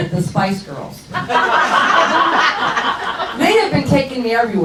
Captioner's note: crowd laughs